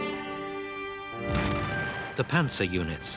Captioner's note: stirring symphonic music continues; explosions booming